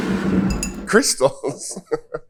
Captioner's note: bottle scraping